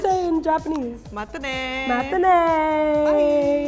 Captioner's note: speaks in foreign language